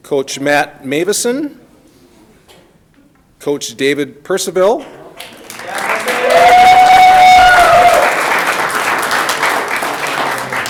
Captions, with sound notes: Coach Matt Meuwissen, Coach David Percival. (audience clapping)